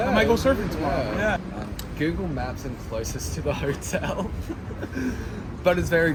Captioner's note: laugh